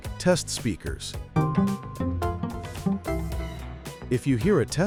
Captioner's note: tones